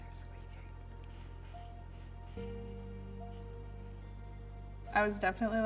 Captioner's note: whispers